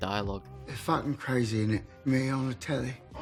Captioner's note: cockney accent